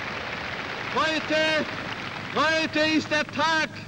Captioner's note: speaking german